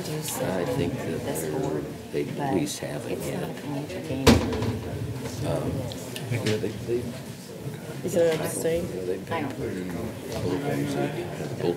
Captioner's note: low chatter